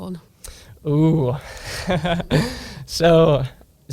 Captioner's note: laughs